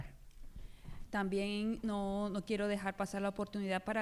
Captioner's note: speaking spanish